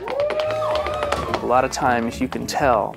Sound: cheering

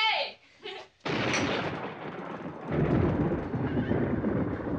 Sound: thunder blasting

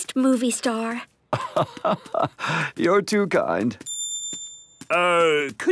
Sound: laugh

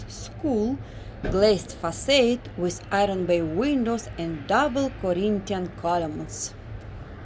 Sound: street noise

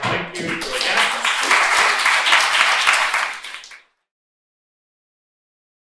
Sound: applause

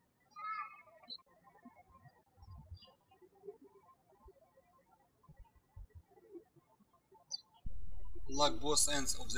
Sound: birds chirping

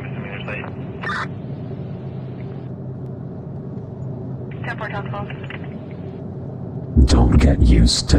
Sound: car noises, police radio sfx

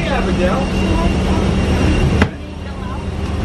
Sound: plane noises drown out

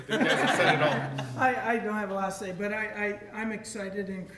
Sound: audience laughing

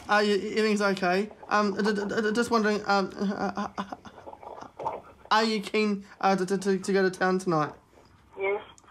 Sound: stammers

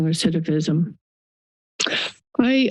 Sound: pause

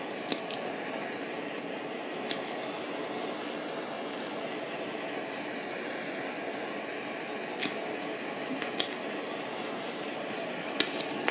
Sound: blowtorch roar

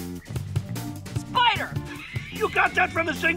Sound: laughs

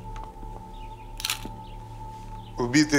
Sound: camera clicking

